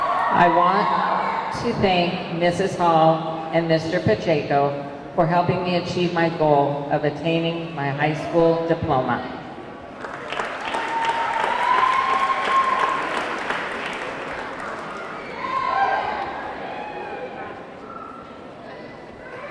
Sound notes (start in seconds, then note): 0.0 audience clamoring; 9.9 audience clapping; 10.2 audience cheering